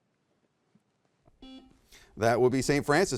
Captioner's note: buzzer beeps